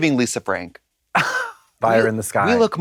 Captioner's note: Katya sputters